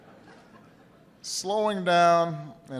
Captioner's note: laughter